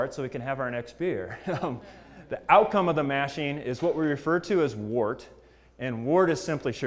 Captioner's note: laugh